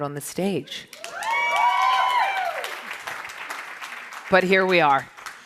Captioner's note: audience cheers